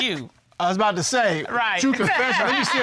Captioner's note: laughs